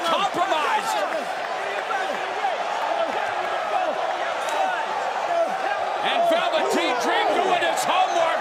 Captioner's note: crowd cheering